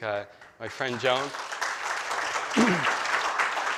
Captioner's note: applause